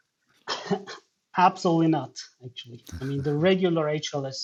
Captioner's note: chuckles